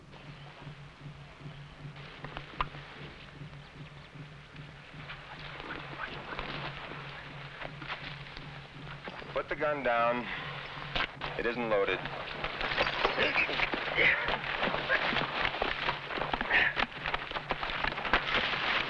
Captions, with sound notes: - Put the gun down, it isn't loaded. (men grunting) (fists smashing)